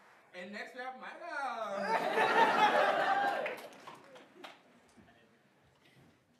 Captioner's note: everybody laughing